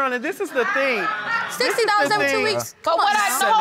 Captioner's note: audience laughing